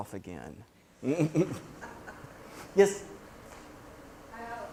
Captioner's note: laugh